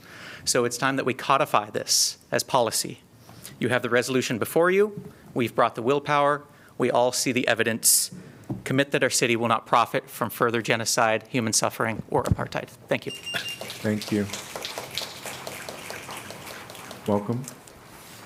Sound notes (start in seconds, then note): 13.2 applause